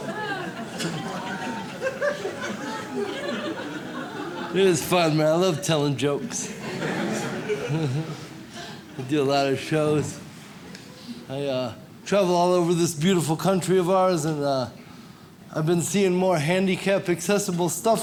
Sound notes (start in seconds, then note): 0.0 audience laughs; 6.2 audience laughs